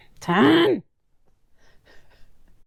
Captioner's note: laughing